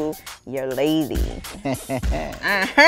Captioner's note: chuckles